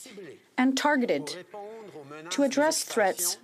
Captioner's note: speaking in French